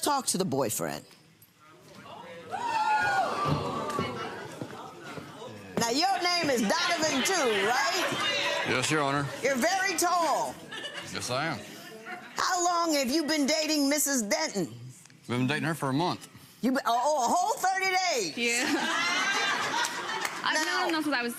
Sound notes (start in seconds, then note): 3.1 audience oohing; 18.5 audience laughing